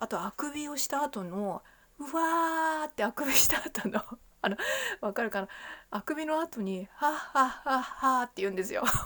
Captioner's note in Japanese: 笑い